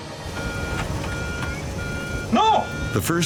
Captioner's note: alarm beeping